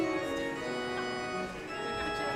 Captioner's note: laughs